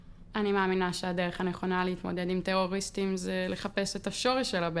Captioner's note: speaking foreign language